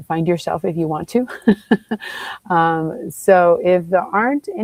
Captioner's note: chuckles